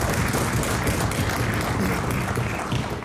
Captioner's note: some Applause